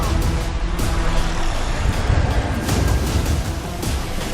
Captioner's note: growling